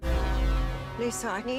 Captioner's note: truck honking